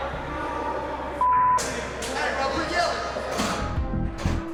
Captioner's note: beep